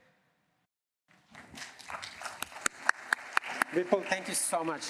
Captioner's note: applause